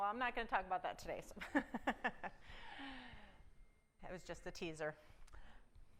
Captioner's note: chuckle